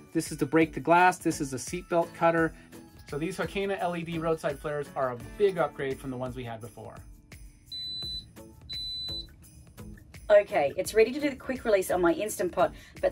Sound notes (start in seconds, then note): 7.7 beeps